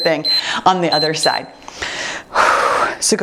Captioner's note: timer beeps